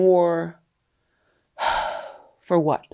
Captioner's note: sighs